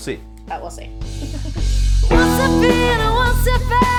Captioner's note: chuckles; music playing back